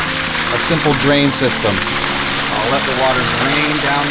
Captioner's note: loud splashing